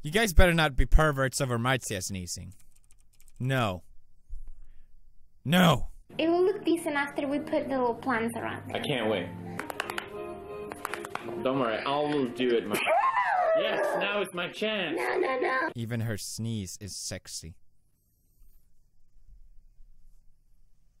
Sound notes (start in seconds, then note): 12.8 marzia sneezing